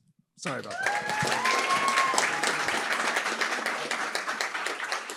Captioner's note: applause, cheering